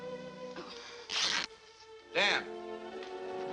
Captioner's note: cloth ripping